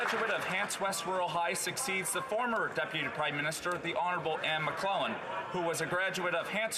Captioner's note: some Applause